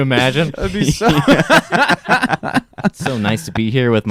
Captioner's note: laughing